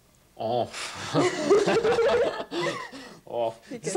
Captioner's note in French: rires